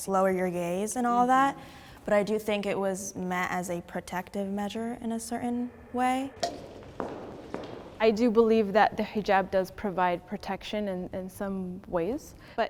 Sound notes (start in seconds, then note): 6.2 footsteps approaching; 6.4 timer taps